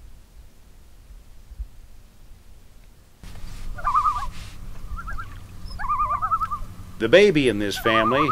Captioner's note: loon calls